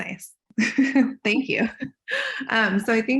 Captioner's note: chuckles